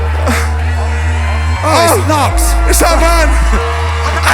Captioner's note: chuckles